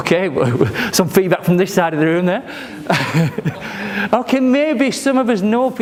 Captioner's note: laughs